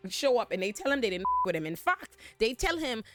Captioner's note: beep